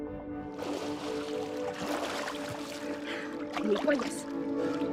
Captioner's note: water rustling; gentle music; water splashing; Noah speaks in foreign language